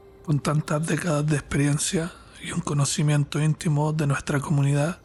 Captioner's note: narrator speaking Spanish